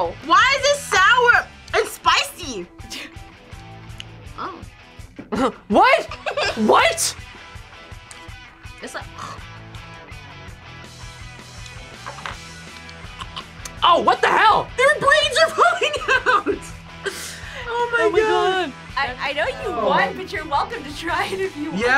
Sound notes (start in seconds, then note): 5.8 laughs; 9.1 gags; 13.1 gags